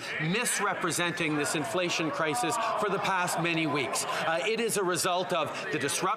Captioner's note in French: voix de l'interprète